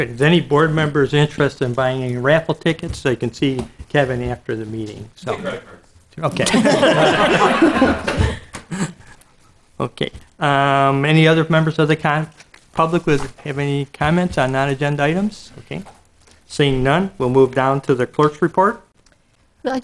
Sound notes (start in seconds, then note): 6.4 laughter